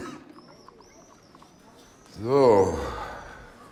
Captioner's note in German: husten